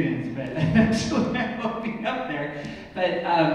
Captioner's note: laughs